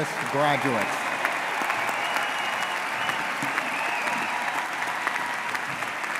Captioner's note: audience cheering and applauding